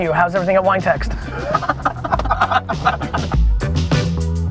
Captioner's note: laughs